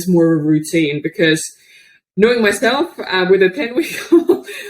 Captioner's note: laughs